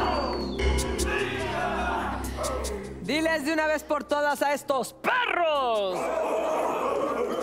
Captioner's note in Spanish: Exclamaciones